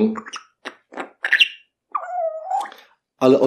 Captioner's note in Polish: odgłosy papug